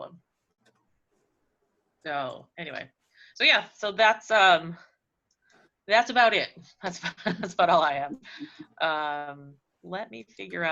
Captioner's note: laughs